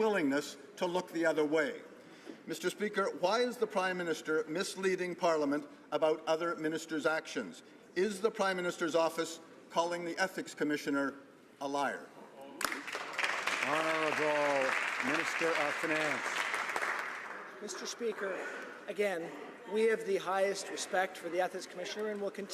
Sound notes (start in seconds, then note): 15.5 some Applause